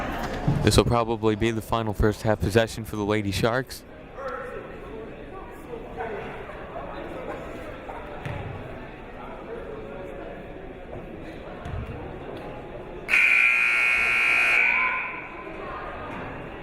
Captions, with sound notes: This'll probably be the final first half possession for the Lady Sharks. (buzzer blares)